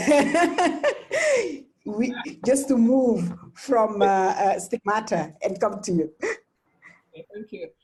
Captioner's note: laughs